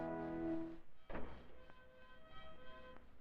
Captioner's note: sound of door closing